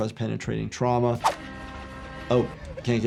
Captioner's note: train honking